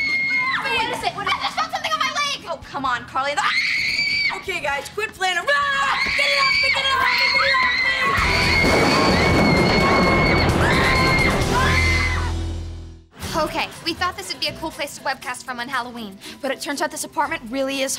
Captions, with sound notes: What is it? What is it? There's something moving on my leg! Oh, come on, Carly- [screaming] Okay, guys, quit playing around. Get it off! Get it off! Get it off! [screaming] [screaming, thundering] Okay, we thought this would be a cool place to webcast from on Halloween. But it turns out this apartment really is haunted.